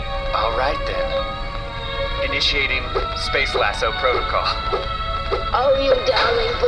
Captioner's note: whooshing as the lasso flies through the air